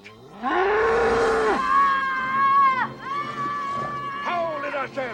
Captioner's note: ox roars; Luke screams